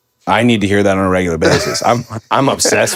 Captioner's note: Finn laughs